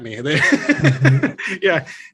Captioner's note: laughs